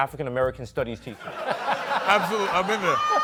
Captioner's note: laughter